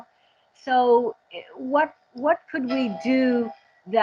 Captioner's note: train whistle